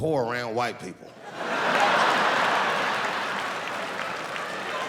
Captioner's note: laughing